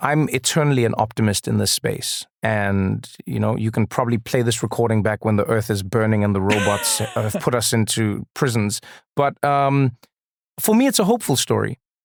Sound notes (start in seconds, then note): 9.5 laugh